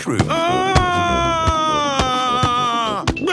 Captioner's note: shouting